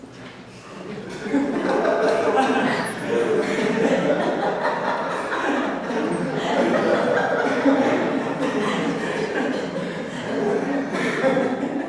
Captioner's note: laughs